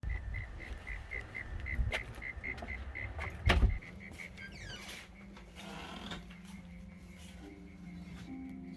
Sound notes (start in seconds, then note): 0.0 crickets chirping; 4.2 door squeaking